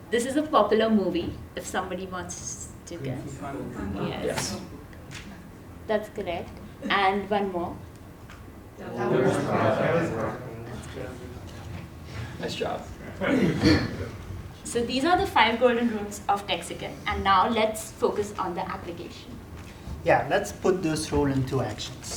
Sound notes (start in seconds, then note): 13.0 laugh